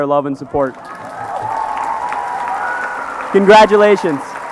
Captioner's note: applause